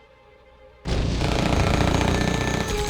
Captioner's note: gun firing